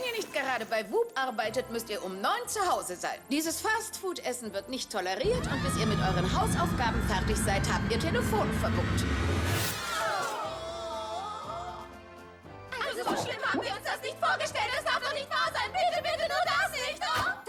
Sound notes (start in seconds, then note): 5.2 screaming; 13.1 chatter